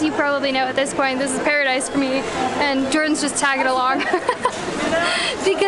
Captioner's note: laughter